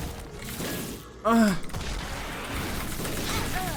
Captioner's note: gasps